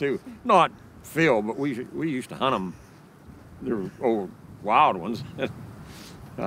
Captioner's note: chuckles